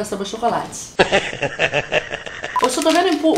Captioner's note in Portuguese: risos